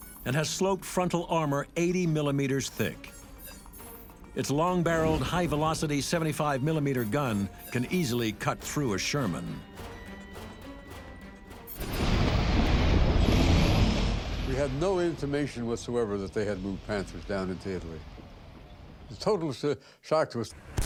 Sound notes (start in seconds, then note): 9.6 tense music; 11.7 tanks revving